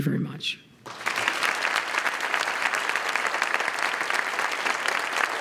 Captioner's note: applause